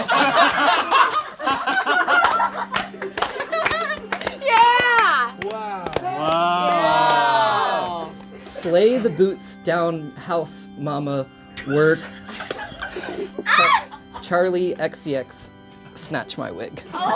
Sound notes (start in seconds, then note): 0.0 all laugh; 2.6 all applaud; 11.5 people laugh; 13.4 shrieks